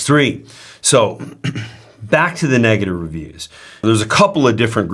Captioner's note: clears throat